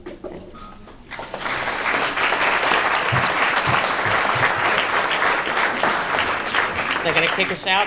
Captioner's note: applause